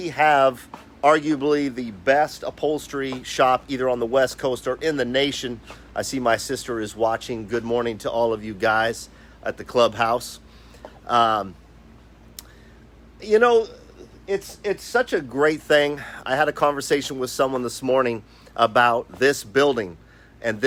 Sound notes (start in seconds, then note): none